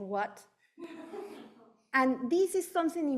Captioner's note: audience member laughing